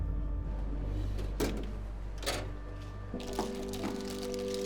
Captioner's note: drawer rattling